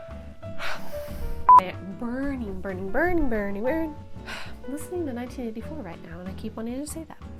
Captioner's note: huff